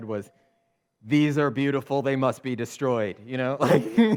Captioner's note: laughs